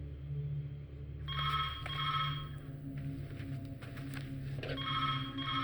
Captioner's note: telephone ringing